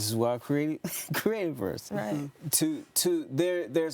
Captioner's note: chuckles